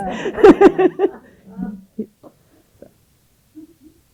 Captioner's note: laughter